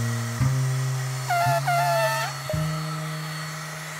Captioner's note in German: Elefant trötet